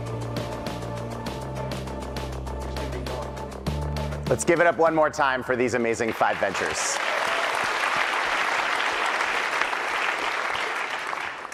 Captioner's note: applause